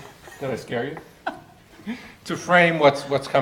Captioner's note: woman laughing